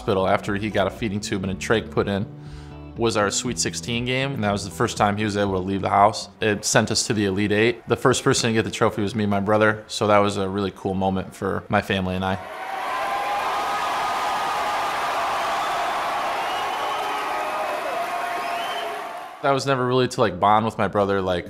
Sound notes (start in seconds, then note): 12.4 crowd cheering